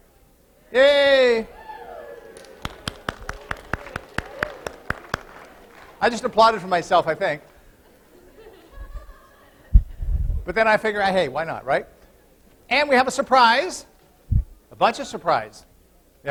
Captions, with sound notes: [APPLAUSE] I just applauded for myself, I think, [LAUGHTER] but then I figured out, "Hey, why not?" We have a surprise. A bunch of surprises.